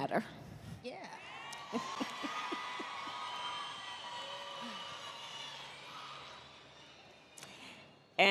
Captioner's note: applause